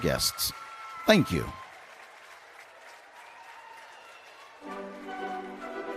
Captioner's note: applause